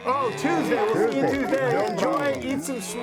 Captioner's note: mooing and applauding